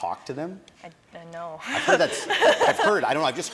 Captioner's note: laughs